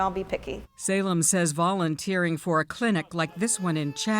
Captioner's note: voice-over